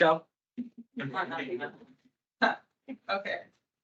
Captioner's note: attendees laughing